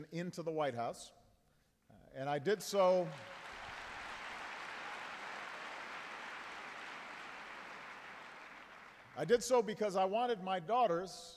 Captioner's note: applause